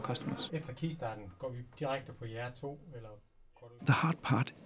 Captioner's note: speaking in foreign language